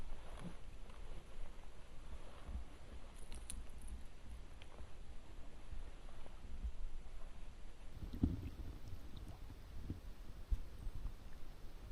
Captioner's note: nature sounds